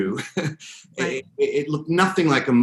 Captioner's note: laughs